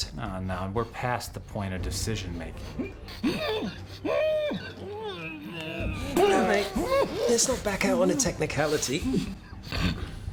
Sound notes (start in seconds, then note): 4.4 groaning